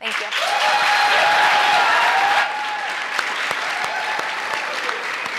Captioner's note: applause